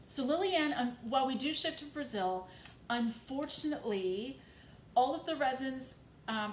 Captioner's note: none